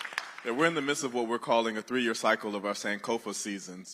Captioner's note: applause